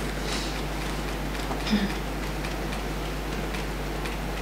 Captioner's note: fingers tapping